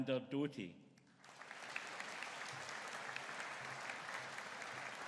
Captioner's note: audience applauding